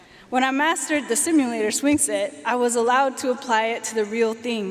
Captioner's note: none